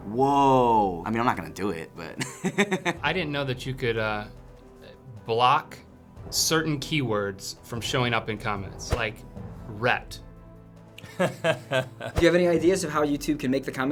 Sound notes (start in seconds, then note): 2.2 laughs; 11.0 wry chuckle